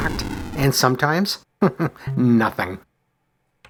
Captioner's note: chuckles